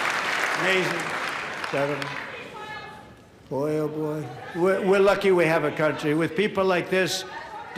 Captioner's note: applause